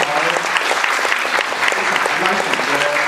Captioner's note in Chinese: 掌聲